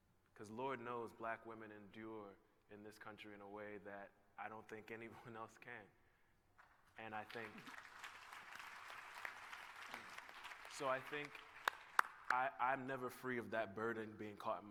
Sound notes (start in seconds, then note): 6.6 applause